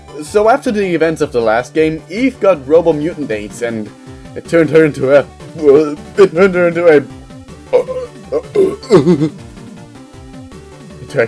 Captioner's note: gags